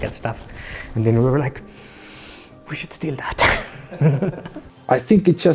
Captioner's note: laughter